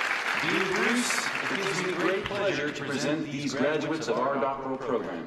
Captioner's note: applause